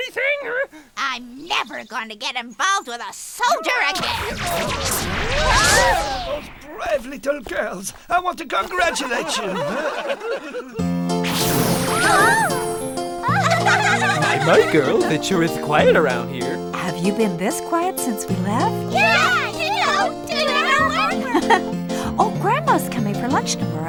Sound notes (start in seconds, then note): 8.5 people laughing; 11.4 upbeat music; 13.2 all giggling